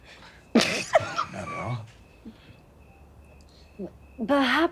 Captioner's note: laughing